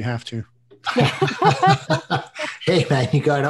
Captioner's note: laughing